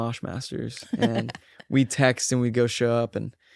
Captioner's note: laughs